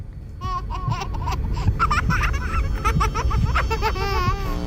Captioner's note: child laughing